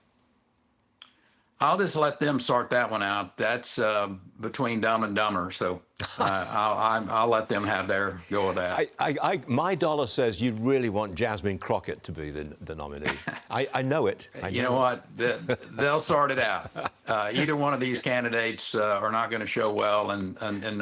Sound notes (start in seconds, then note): 16.5 laughter